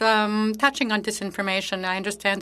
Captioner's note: speaking French